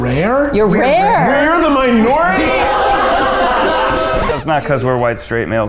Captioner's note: all laughing